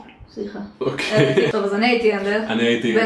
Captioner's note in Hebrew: צחוק